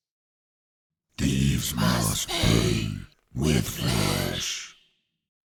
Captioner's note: Demonic voice